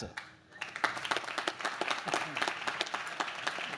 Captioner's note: audience claps